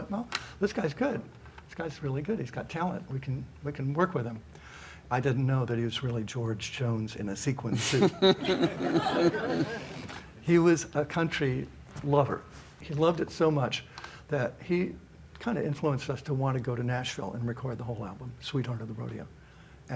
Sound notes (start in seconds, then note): 7.8 audience chuckles